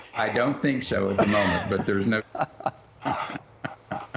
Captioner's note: laughter